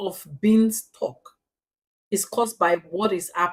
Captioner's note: paause